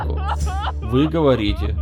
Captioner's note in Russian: женский плач навзрыд